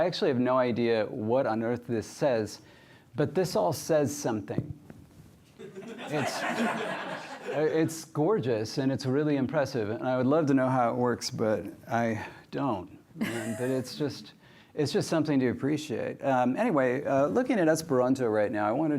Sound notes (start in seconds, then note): 5.6 laughter